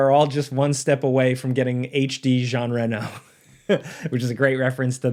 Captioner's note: chuckles